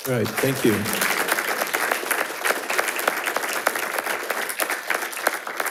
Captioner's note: attendees applauding